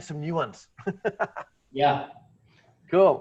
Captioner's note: laughs